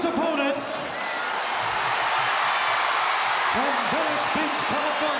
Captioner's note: audience cheering